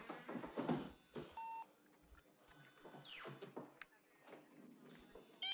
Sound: machine beeping

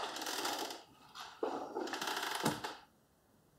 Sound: door creaking, closing

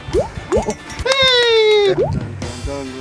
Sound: claps

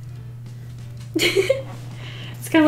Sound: laughs

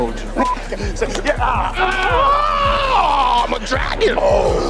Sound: beep; men grunting and yelling; men growling

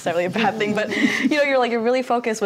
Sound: laughter

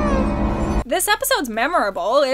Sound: muffled screams

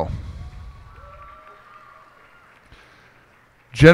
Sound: cheers and applause

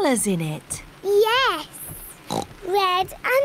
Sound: oinks

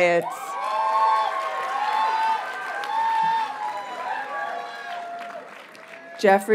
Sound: audience cheers and applauds

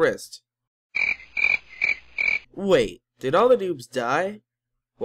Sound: cricket

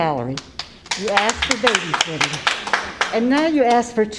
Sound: applause

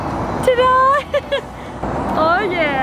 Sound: laughs

